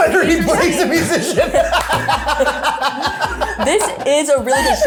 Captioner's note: group laughs